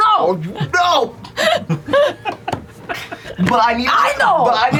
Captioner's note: laughter